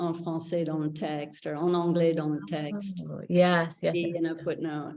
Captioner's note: speaks in French